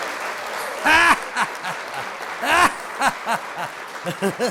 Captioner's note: maniacal laugh